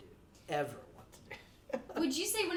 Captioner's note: chuckles